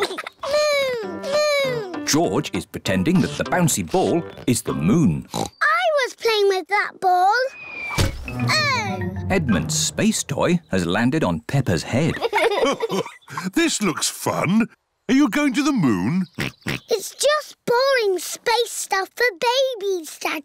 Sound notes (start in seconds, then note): 5.2 oinks; 7.9 thudding; 11.9 chuckles; 16.3 oinks